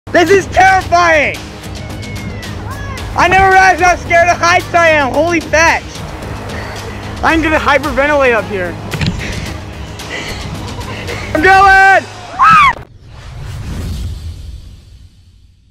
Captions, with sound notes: - This is terrifying! I never realized how scared of heights I am, holy fetch. I am going to hyperventilate up here. I'm going! (screams)